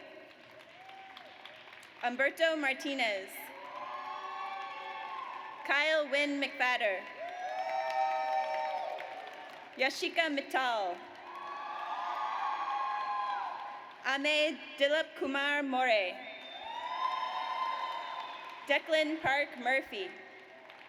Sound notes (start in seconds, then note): 0.2 audience applauds; 3.5 audience cheers; 7.2 audience cheers; 11.2 audience cheers; 16.4 audience cheers; 20.2 audience applauds